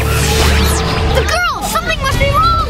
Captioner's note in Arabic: ضوضاء الكهرباء